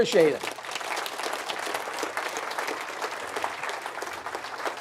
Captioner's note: audience applauds